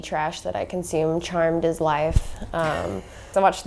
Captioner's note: laughing offscreen